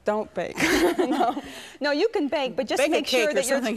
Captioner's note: laughs